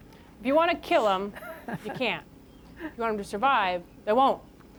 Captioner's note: laughter